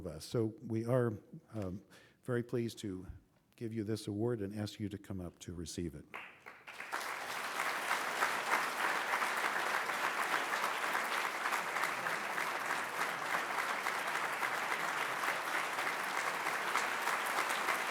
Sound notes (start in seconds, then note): 8.1 applause